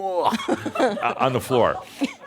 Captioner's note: puke